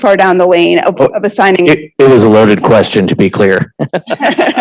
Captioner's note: laughing